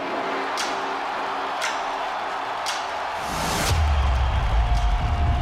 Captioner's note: crowd cheering